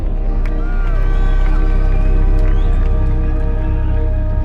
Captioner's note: crowd cheers